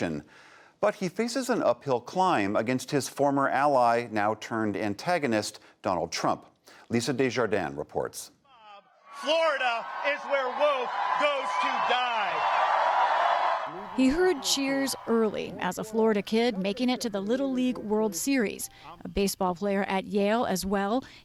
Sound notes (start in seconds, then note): 12.5 cheering and applause